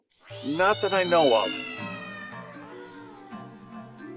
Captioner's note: cat screaming; cat screaming continues